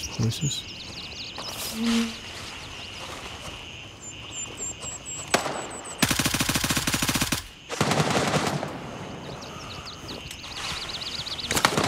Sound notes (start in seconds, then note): 3.3 birds chirping; 5.3 gunfire; 7.7 gunfire; 11.5 gunfire